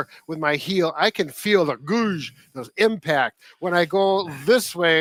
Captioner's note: grunts